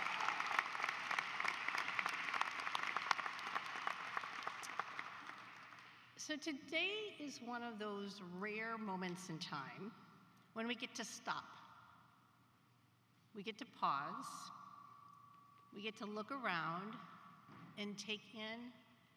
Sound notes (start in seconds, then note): 2.4 applause